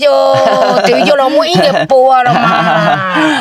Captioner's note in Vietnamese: tiếng cười